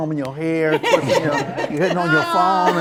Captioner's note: all laugh